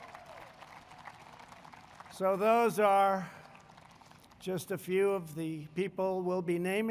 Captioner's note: applause